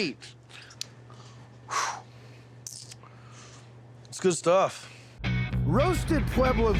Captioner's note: exhaling